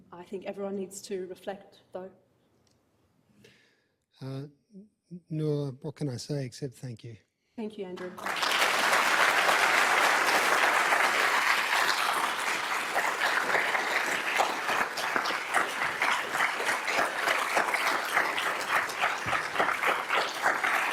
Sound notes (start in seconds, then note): 10.3 crowd applauding